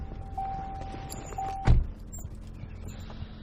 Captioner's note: car door closing